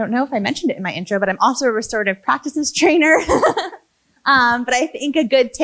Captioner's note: laughs